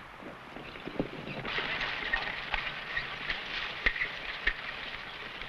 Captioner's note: horse hooves pattering